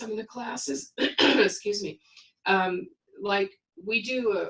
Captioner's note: clears throat